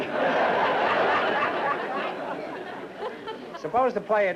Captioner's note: laughter